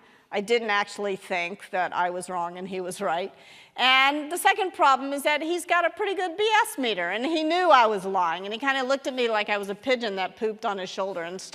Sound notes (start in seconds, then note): none